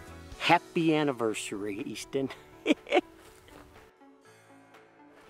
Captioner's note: chuckles